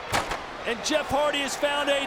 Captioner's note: ladder clatters